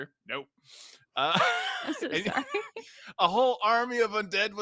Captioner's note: laughs